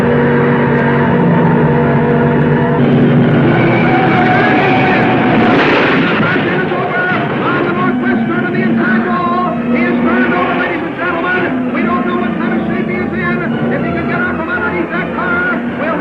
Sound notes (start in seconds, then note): 4.1 tires squealing; 5.9 car crashing